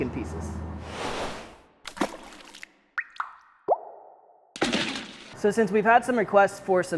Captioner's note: swish, splashing, drips, big splash